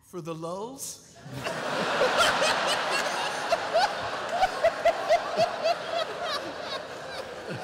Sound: laughter

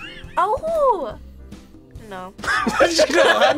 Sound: React laughs; group laughs

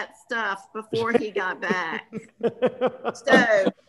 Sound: laughing

